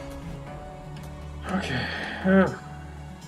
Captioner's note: sighs